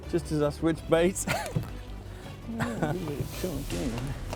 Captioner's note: laughs